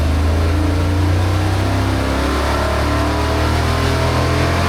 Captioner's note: engine revving